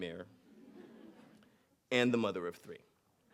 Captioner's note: audience laughing